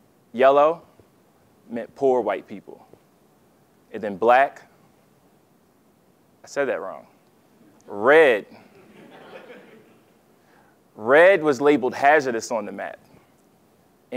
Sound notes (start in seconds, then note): 8.6 laugh